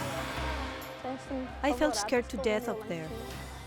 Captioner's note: speaking in Spanish